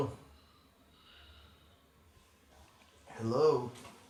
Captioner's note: breathing over phone